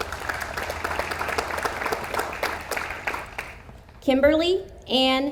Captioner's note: audience applauds